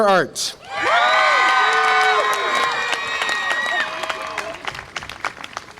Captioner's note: audience applause and cheer